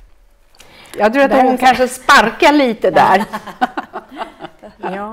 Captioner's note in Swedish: skratt